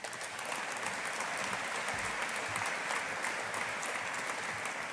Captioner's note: audience applauding